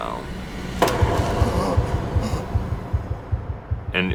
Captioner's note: loud bang